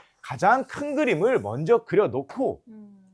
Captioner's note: none